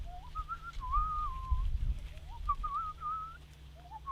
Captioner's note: Zipwaz whistling